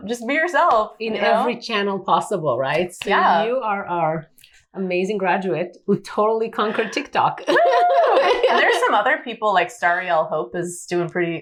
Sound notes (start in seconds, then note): 7.4 both giggle